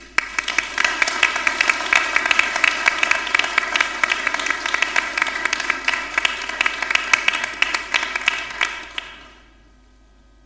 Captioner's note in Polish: oklaski